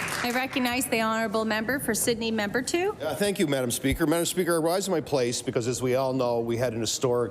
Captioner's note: applause